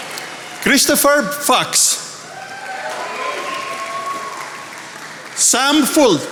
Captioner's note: attendees applauding